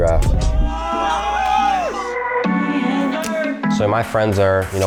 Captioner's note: group shouting